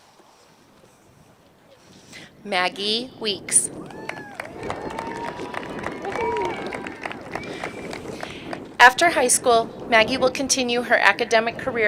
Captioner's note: applause